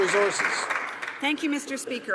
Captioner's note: some Applause